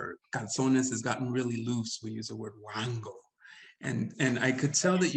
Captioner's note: speaks Spanish; speaks Spanish